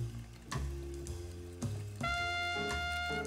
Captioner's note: whisking